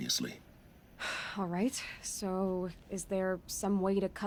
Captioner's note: sigh